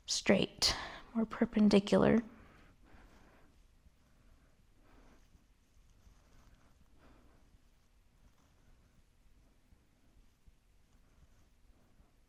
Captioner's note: breathing Deeply